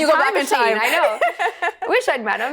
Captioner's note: laughing